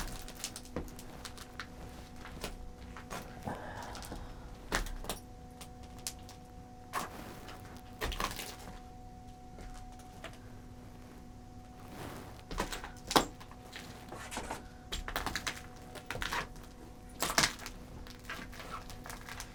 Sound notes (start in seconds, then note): 0.0 debris crackling; 3.2 sighs; 6.4 debris crackling